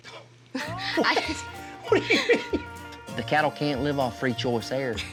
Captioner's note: laughs